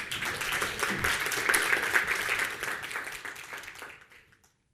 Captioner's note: audience applauding